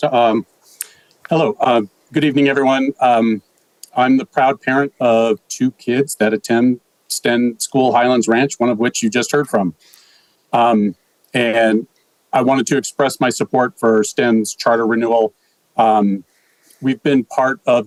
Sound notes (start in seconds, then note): none